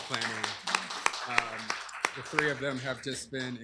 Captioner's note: applause